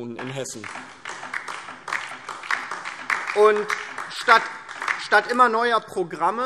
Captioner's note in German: Beifall DIE LINKEN